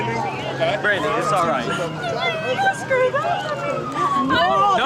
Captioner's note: crying